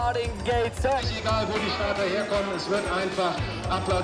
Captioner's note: speaks german